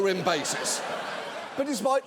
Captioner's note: audience laughs